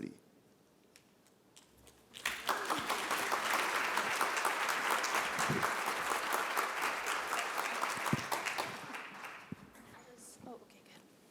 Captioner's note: applause